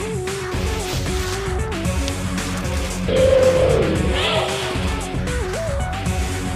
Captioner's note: roar